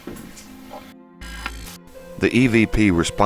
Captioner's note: static fizzing